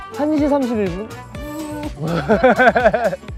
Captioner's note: boo